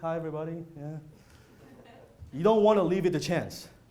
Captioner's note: laughter